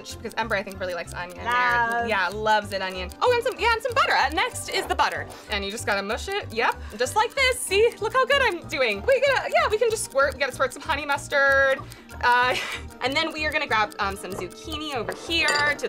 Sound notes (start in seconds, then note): 12.2 laughs